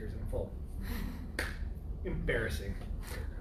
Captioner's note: laughter